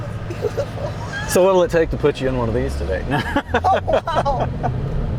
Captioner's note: laughing